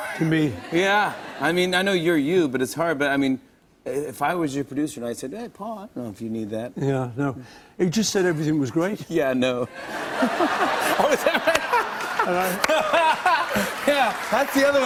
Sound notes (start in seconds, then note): 9.7 laughter; 9.8 laughing